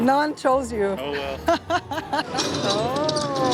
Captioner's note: laughs